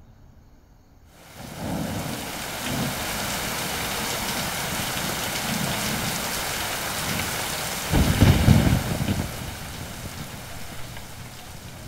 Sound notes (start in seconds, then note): 4.3 Rain pattering; 7.8 Thundering